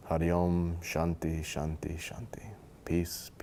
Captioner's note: speaking foreign language